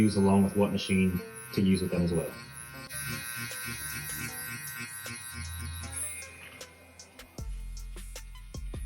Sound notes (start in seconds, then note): 3.1 slow groovy music; 3.1 tattoo gun buzzing